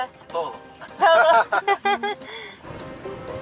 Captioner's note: laughter